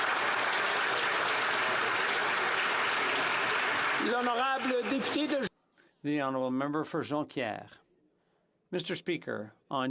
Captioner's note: applause